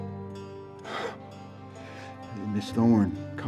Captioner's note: sighs heavily